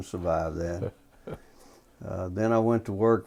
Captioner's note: laughter